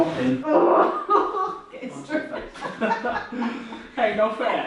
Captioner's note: groans, laughs